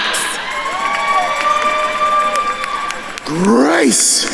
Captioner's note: attendees cheering